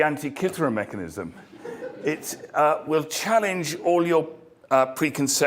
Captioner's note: laugh